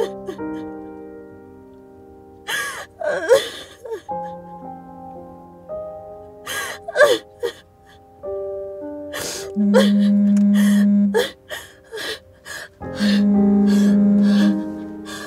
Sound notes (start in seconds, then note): 9.5 phone vibrates